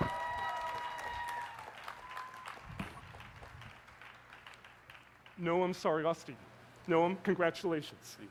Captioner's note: cheers and applause; applause